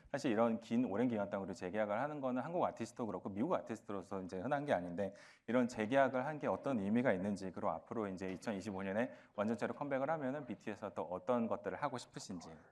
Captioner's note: speaking another language